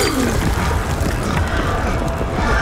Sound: boom

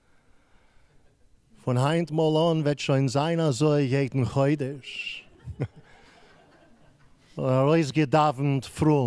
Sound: laughing

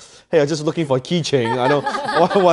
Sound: laughing

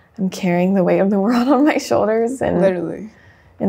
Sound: chuckles

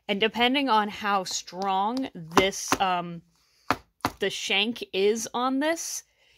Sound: sound of pointe shoe box hammering on the headboard

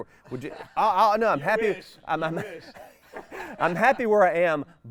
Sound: laughs

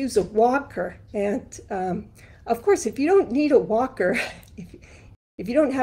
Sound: chuckles

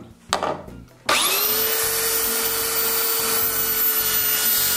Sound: sander

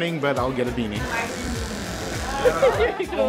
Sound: buzzing

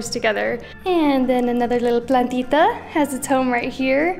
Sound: speaking in Spanish

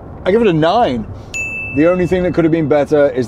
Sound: bell chime

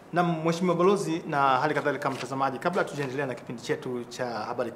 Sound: speaking in swahili

